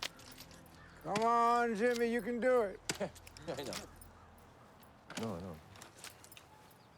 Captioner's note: lee on phone